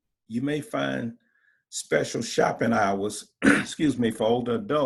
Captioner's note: coughing